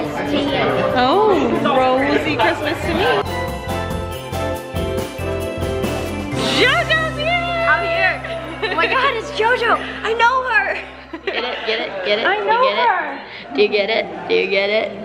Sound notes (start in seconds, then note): 3.5 upbeat instrumental music; 10.7 laughing